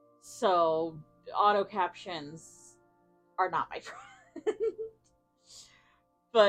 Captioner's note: giggles